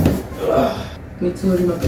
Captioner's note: groans of ageing